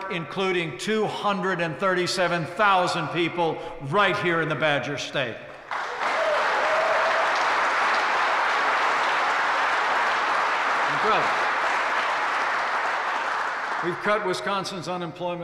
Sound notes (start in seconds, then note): 5.6 applause